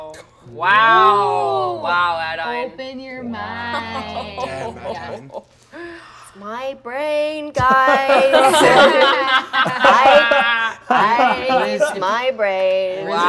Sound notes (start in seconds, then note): 7.9 all laugh